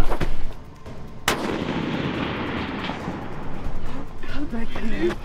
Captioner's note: gun shot; laughing